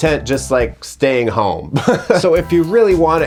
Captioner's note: laughs